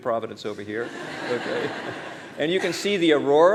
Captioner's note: laughter